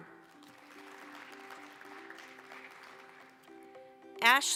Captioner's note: applause